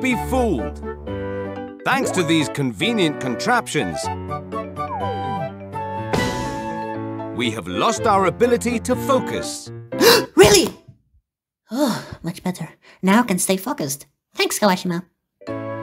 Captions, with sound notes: *gasp* Really?! Phew, much better. Now I can stay focused... Thanks, Kawashima!